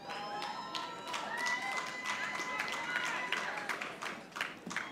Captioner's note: audience applauding